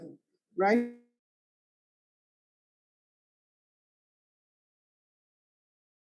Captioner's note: silence